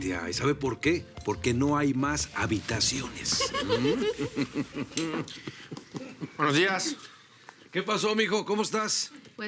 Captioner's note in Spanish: Risas